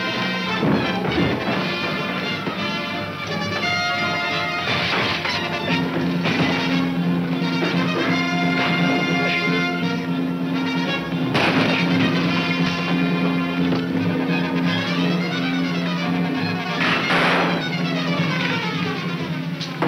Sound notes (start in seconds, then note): 11.4 gun fires; 16.8 gun fires